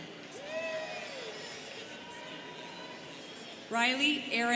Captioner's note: students cheering